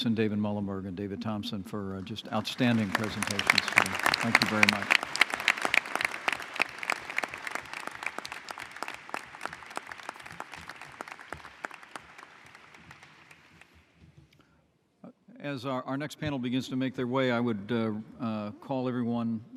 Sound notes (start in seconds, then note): 6.2 applause